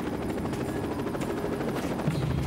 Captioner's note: helicopter whirring